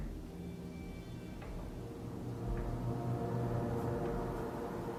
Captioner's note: none